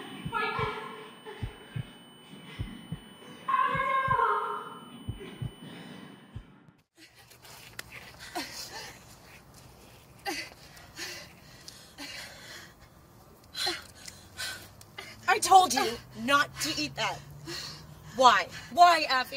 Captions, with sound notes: Fight this! AFRIDEL!!! Ugh.. Ugh... (hard breathing) I told you, not to eat that. Why? Why Afie?